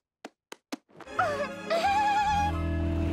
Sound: giggling

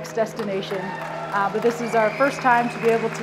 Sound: audience applauding

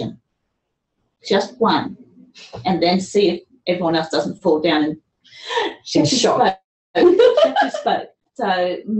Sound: laughter

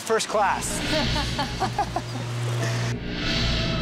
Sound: laughter

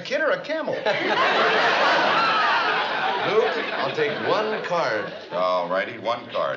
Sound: laughs

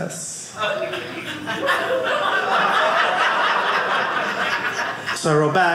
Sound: audience laughing

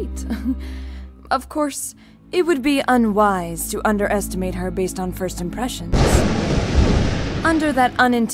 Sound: chuckle; thunder

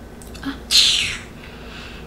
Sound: sucking teeth

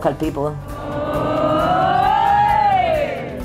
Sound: cheering

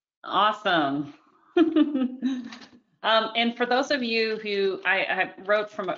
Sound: chuckles

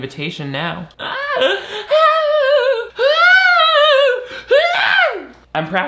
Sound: laughing manically

